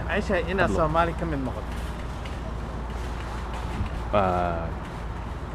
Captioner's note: somali